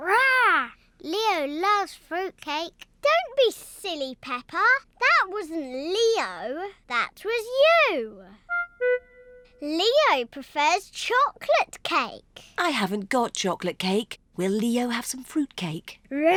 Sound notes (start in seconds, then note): none